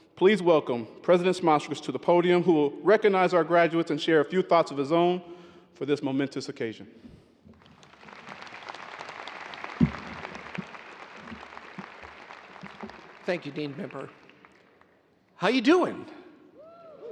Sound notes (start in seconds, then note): 7.5 audience applauding